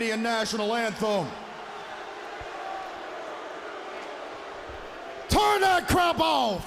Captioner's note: crowd chatter